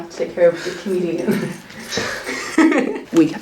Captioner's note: laughs